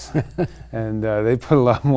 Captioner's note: laughing